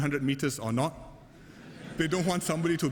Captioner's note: laughter